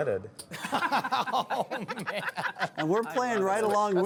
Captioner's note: laughter